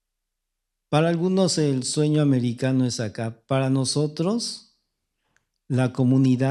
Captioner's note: speaking spanish